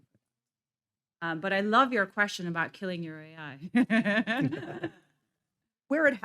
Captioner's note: laughs